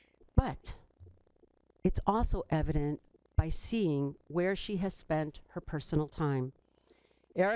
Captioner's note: none